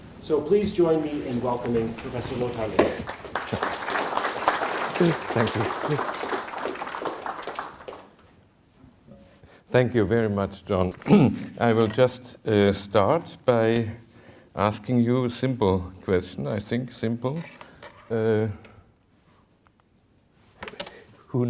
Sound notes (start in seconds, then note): 2.8 audience applauding; 11.0 clears throat